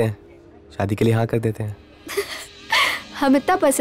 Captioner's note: Laughs